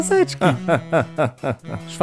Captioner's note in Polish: Śmiech